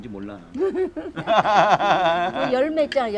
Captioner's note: both laughing